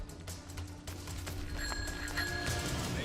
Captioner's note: rings bell